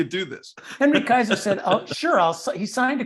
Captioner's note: laugh